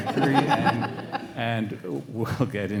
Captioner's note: everyone laughing